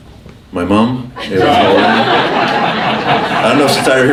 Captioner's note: laughing